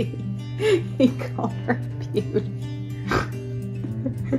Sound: mom laughing; mom laughing

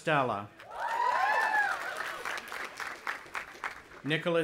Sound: audience applauding and cheering

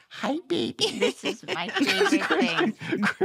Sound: laughter

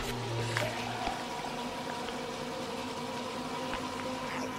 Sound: crunching and slurping

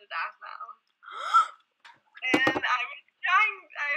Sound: gasps and slams desk

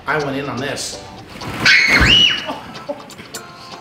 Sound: screams

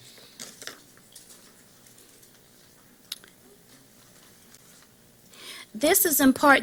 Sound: silence

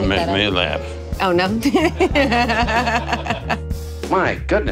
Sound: laughing

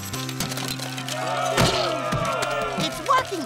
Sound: booing

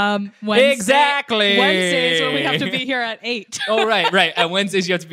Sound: laughs

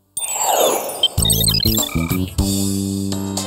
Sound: beeping

